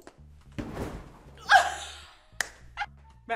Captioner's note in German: Lautes Lachen